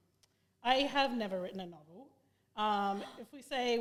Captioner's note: gasp